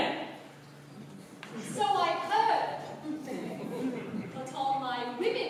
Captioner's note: laughter